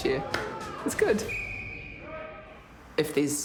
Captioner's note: whistle blows